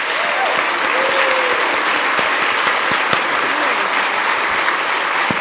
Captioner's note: audience cheering and applauding